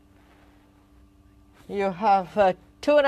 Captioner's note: speaking French